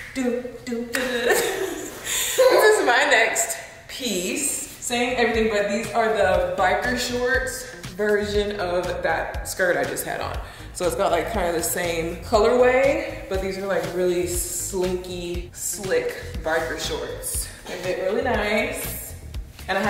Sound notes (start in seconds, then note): 0.7 laughing